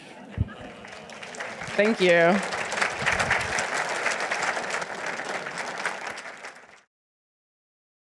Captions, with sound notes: So available everywhere fine books are sold. Please spread the word. (audience laughing) - Thank you.